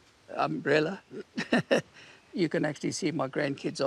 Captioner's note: chuckles